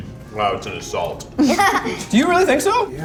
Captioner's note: laughs